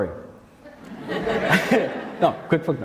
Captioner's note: audience and speaker laughing